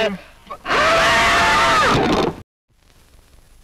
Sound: yelling

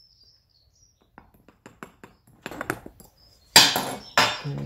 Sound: tapping

